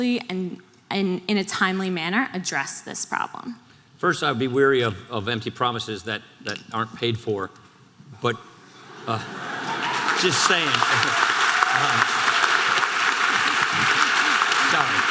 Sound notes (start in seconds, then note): 10.8 audience applause